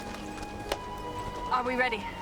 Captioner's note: hands clasping